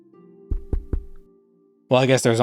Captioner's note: tapping the microphone